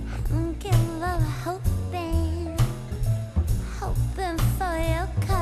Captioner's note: none